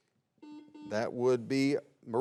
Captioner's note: buzzer beeps